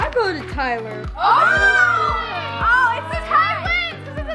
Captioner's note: all squealing